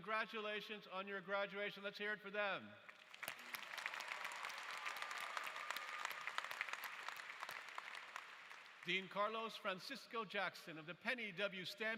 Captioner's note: applause